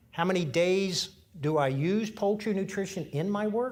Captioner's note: none